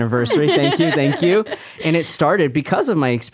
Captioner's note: laughing